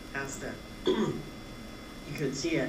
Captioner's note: clears throat